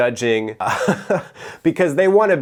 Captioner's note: chuckles